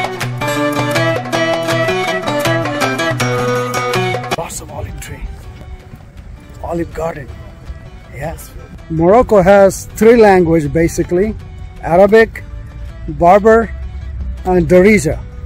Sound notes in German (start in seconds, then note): 10.0 Berberisch